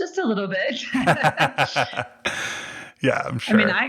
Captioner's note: both laugh